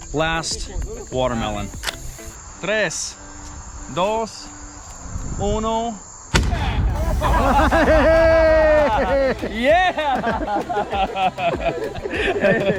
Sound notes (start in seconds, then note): 2.8 speaking Spanish; 6.3 gun firing; 6.8 chuckling